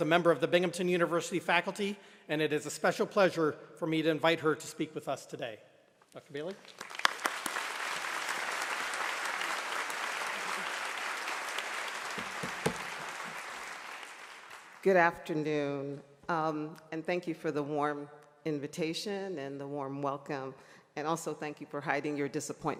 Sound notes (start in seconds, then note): 6.4 applause